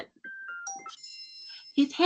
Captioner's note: cellphone chimes